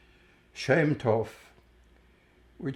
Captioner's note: hebrew